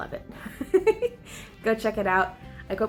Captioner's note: giggles